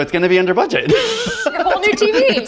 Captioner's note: laughing